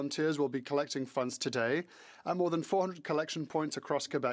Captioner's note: speaking French